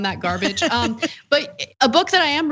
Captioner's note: laugh